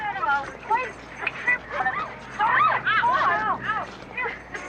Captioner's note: shrieking